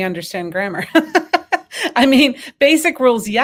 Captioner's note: laughs